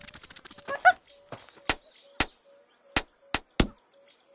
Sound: slapping

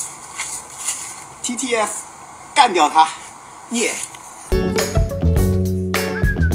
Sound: speaks in foreign language; upbeat music

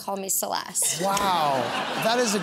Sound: laughter

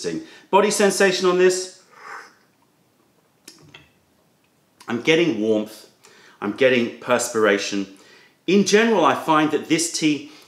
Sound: sips tea

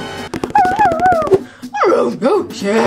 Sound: Scooby whimpers

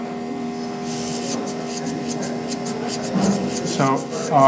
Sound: blowing air

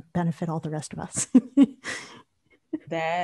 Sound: laugh

